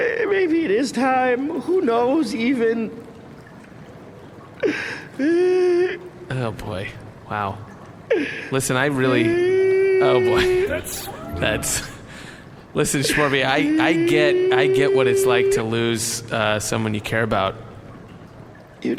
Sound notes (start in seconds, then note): 1.1 tearful; 5.2 crying; 10.7 Shmorby continues keening in despair